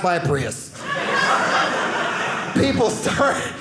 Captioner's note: audience laughing